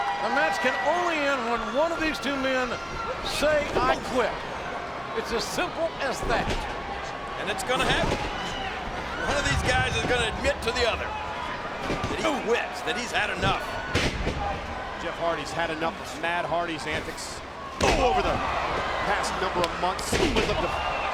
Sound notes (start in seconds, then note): 13.4 body thuds; 19.9 bodies thud